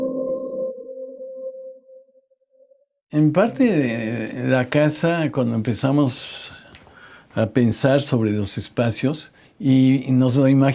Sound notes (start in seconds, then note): 3.2 continues in Spanish